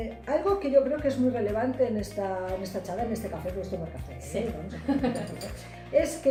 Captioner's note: laughs